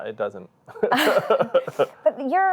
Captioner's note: both laugh